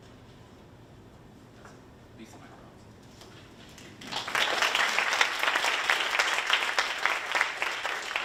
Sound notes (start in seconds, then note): 3.9 audience applauding